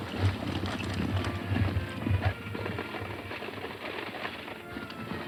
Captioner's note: galloping hooves